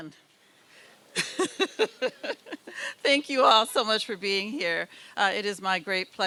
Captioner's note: laughs